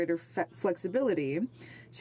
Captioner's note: speaking in French